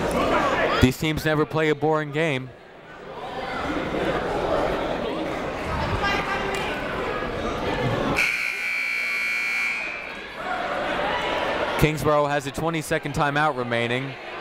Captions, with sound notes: These teams never play a boring game. (people talking in the crowd) (buzzer ringing) Kingsborough has a 20 second time out remaining,